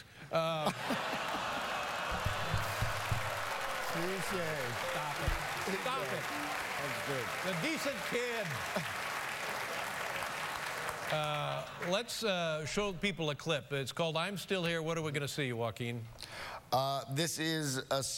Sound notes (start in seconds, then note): 0.4 laughter; 4.2 laughter; 7.2 applause